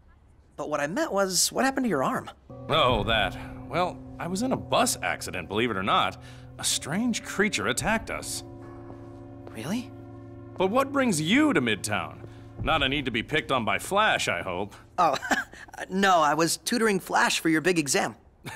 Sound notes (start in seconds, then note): 15.0 chuckles; 18.3 laughs